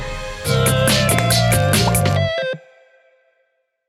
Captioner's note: electronic tones